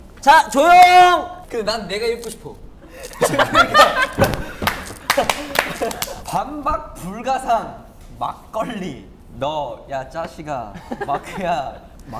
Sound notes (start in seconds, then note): 4.5 laughing; 4.6 applause